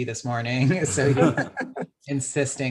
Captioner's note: laughs